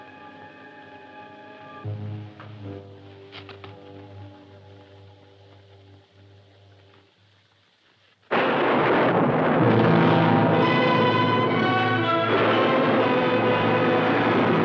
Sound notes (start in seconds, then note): 8.2 thunder claps